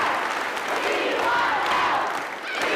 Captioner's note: crowd cheering and applauding; chanting